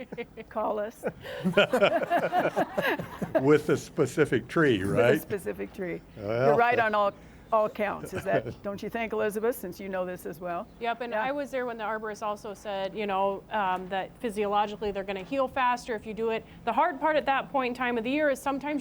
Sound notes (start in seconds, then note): 4.2 laughter